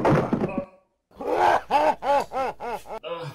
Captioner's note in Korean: 으하하하